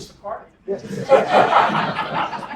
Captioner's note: laugh